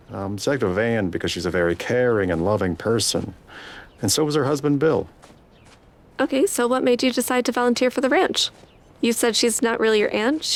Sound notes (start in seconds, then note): none